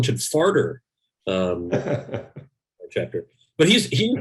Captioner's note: laughs